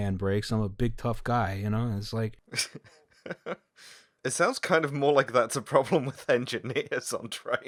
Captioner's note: laughs in female